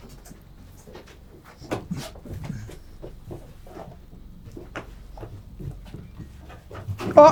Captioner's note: footsteps and wind in the background